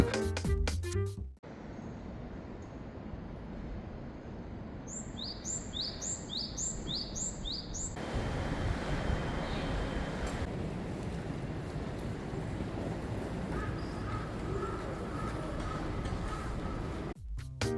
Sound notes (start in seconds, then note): 4.8 birds chirping; 12.9 birds chirping